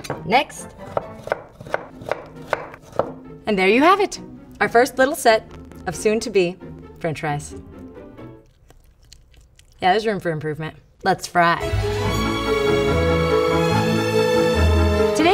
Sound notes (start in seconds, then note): 0.9 chopping; 7.6 chewing; 11.6 dramatic classical music